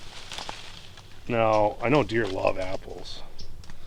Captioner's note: leaves rustling